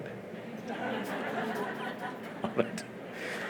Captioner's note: laughter; laughs